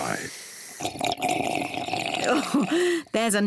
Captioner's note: slurps